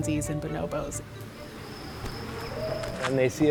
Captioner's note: nature sounds